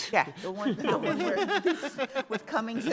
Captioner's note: justices laughing